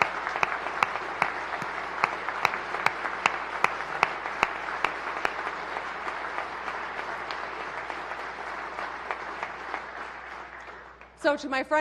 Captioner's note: applause